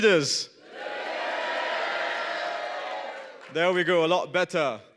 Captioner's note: cheers